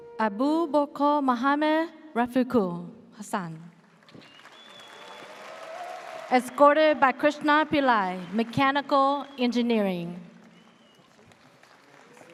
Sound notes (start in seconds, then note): 4.2 audience cheers